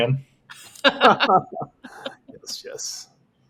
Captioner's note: laughing